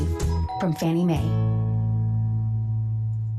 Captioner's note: door bell ringing